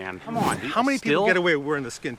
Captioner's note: air whooshes